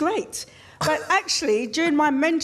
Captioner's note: laughs